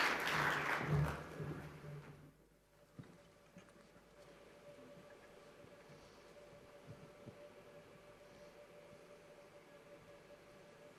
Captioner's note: applause